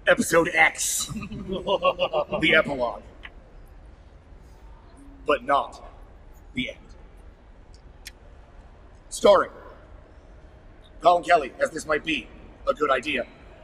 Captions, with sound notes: episode X. (laughter) The epilogue. But not the end. Starring Collin Kelly as This Might Be a Good Idea.